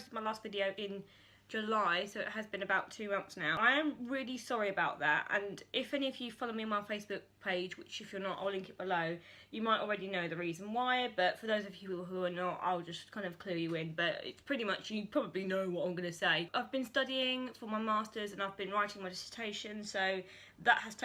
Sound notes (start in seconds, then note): none